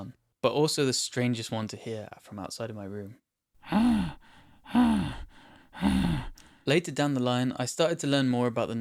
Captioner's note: sigh